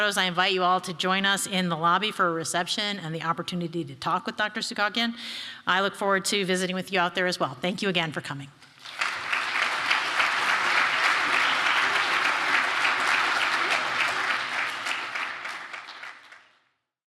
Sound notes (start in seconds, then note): 13.7 applause